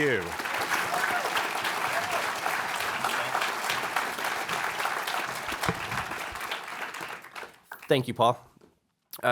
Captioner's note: applause